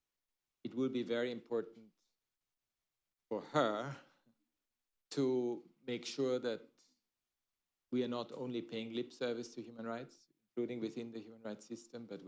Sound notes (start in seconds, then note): none